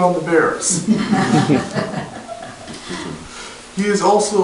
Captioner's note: audience laughter